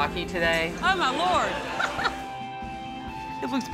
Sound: laughs

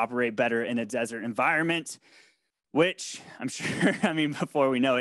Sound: laughs

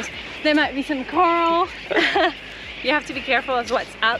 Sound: chuckles

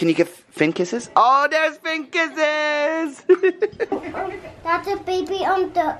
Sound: laughs

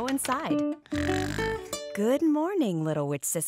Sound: snoring

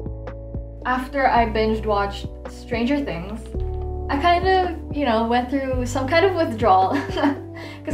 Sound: laughs

